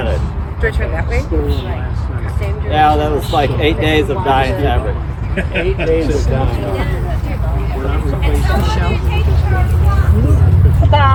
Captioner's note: laughter